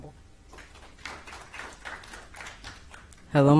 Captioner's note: applause